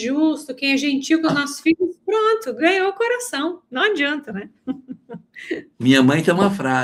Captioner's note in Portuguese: risadas